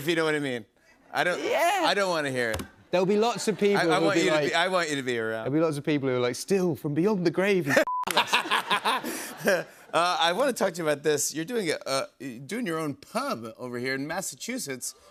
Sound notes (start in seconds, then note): 7.6 laughter